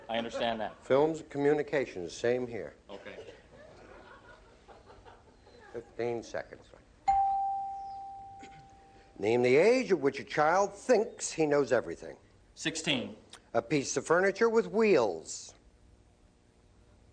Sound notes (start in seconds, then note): 3.0 laughter; 7.0 ding